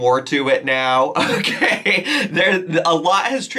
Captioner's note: laughing